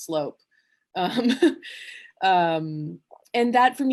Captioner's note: laughs ruefully